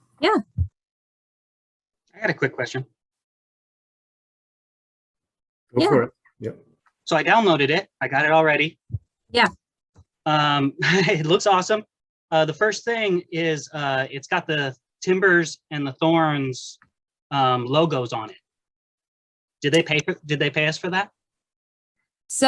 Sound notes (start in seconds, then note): 11.2 laughs